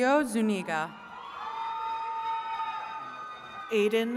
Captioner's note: attendees cheering